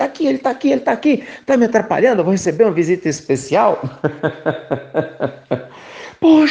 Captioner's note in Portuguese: risos